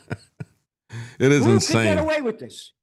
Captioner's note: laughing